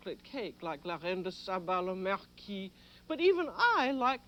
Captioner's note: speaks French